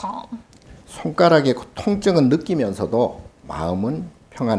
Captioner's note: speaking Korean